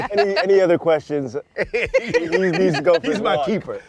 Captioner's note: laughter